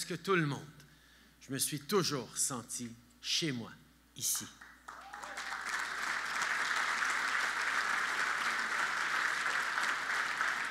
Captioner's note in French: Applaudissements